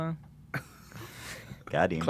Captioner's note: laughs